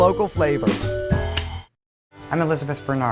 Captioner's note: lighter clicking